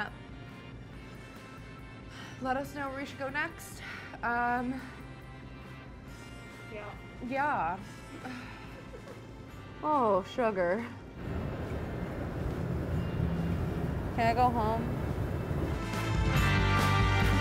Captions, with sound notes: Let us know where we should go next. Um. - Yeah. - Yeah. (sighing) Oh, sugar. Can I go home? (upbeat music)